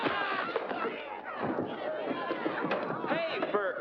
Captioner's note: thump